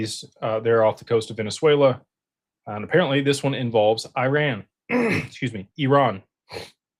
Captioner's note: clears throat